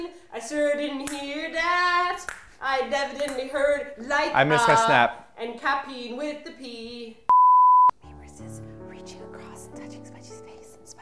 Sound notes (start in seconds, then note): 7.3 beep; 8.0 whispers